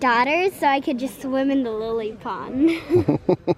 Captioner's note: laughing